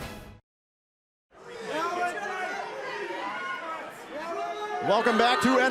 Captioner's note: crowd cheering